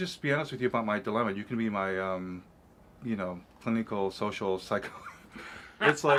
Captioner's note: laughing